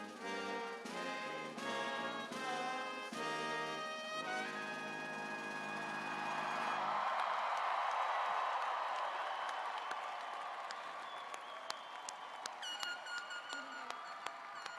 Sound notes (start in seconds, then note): 9.1 cheers and applause